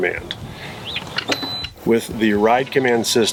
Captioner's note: system beeps